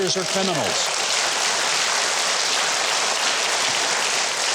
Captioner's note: audience applauds